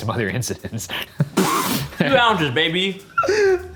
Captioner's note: laughs